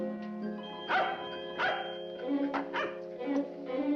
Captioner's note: dog barking